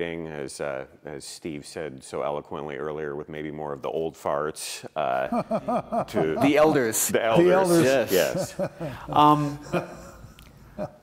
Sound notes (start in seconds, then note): 5.2 laughter